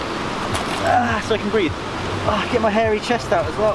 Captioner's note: groans